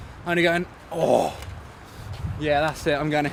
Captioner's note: forcefully exhales